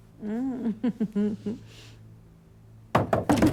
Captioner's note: laughs